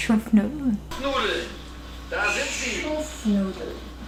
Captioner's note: foreign language